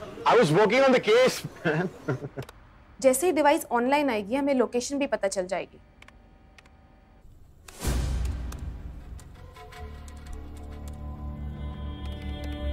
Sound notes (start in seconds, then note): 1.5 Chuckles; 6.5 Keyboard typing